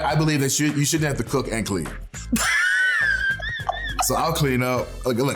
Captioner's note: laughs